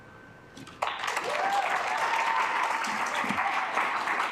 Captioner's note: assembly clapping